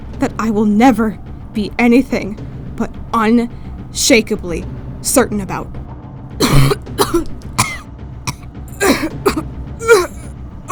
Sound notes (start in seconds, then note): 6.4 coughing; 7.1 dripping; 8.2 coughing